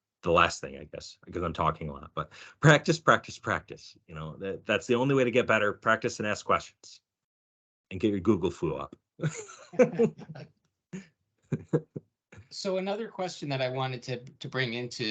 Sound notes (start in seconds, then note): 9.2 laughing